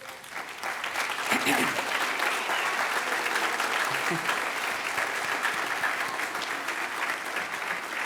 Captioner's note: applause